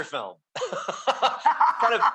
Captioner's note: laughing